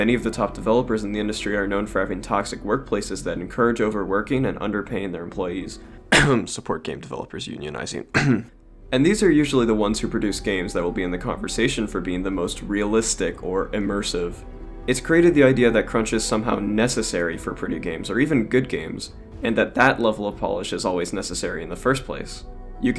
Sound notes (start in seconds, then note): 6.1 cough